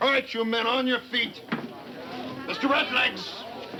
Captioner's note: people chattering